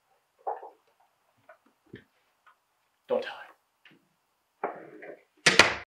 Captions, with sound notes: Don't tell her. (door bangs shut)